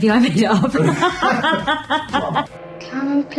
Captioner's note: laughter